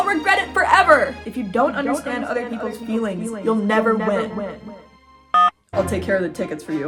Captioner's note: Akane's voice echoing; phone beeps; intense music